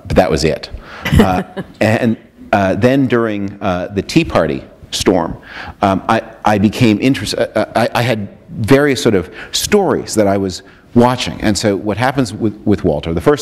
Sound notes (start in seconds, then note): 1.0 chuckle